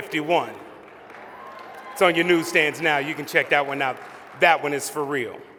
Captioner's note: applause